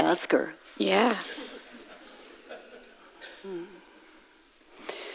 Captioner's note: audience laughs